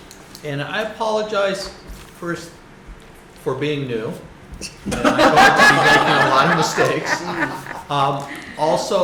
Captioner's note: laughs